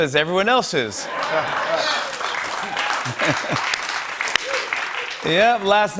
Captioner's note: laughter and applause